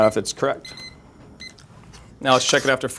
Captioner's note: timer beeping